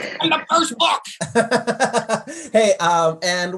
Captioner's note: laughs